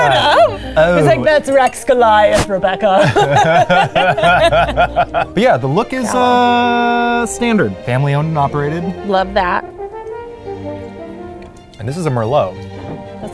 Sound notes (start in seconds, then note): 3.0 both laughing; 9.9 light classical music